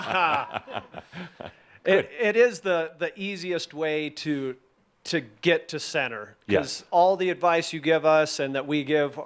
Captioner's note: chuckles